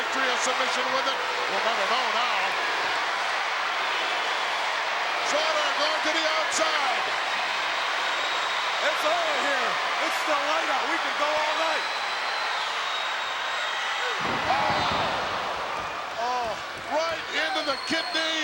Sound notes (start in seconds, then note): 2.4 crowd yelling; 11.9 crowd yelling